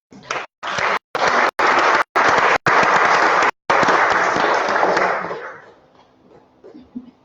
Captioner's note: applause